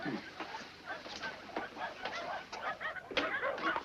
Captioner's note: dogs barking